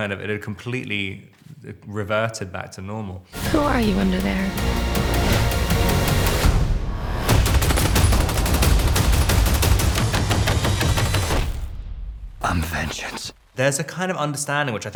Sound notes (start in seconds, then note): 4.9 intense music; 7.2 gunshots firing; 7.6 intense music